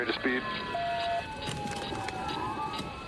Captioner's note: sirens blaring